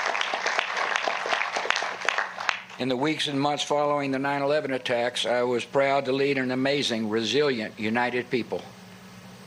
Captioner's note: applause